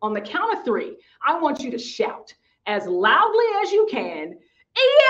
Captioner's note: shouting